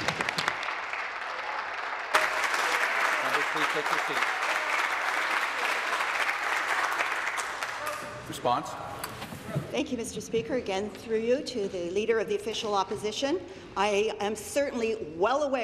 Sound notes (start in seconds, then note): 2.6 applause